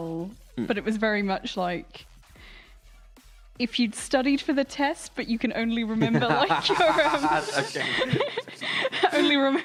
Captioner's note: laughter